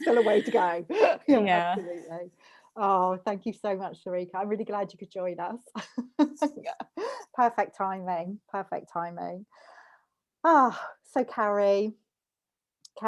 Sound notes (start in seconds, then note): 6.1 laughs